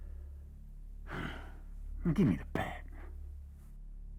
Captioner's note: sighs